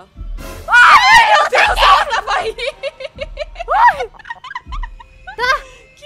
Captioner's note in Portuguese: grita